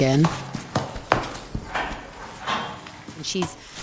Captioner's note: shuffling